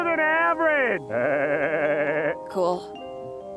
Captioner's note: chortles